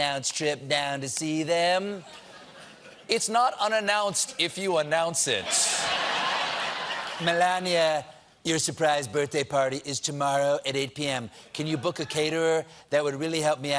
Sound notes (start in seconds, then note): 6.9 cheers and applause